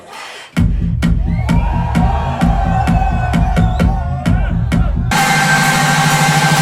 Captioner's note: upbeat club music; crowd cheering